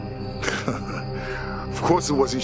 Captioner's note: Roy chuckles